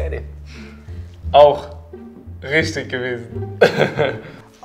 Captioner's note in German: lachend